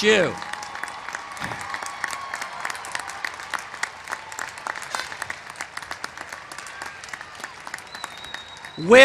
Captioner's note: applause